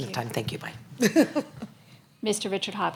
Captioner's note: chuckles